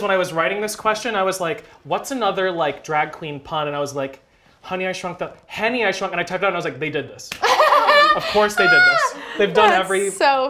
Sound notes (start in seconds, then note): 7.4 laughter